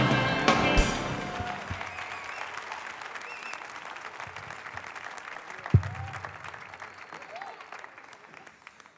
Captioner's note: applause